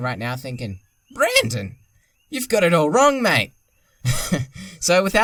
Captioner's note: laughing